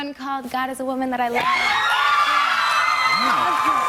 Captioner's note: cheers and applause